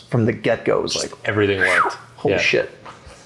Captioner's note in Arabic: صفير